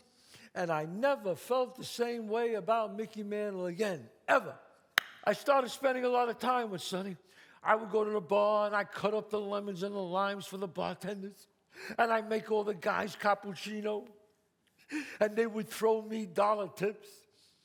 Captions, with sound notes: and I never felt the same way about Mickey Mantel again, ever. [claps] I started spending a lot of time with Sonny. I would go to the bar and I cut up the lemons and the limes for the bartenders and I'd make all the guys cappuccino and they would throw me dollar tips.